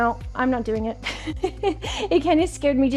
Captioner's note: laughs